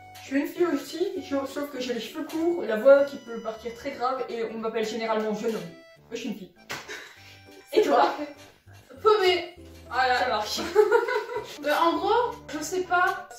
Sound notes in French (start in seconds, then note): 6.8 petit rire; 10.5 rire